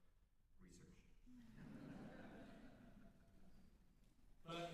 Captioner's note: laughter